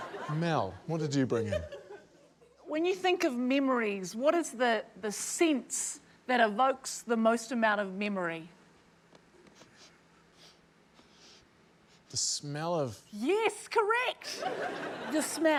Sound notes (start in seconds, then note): 0.0 laughs; 10.1 sniffs